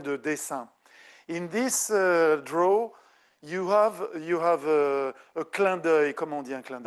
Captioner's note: speaking French; speaking French